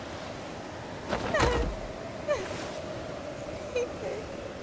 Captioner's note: sobbing